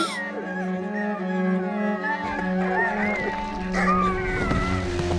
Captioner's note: gasping; whimpering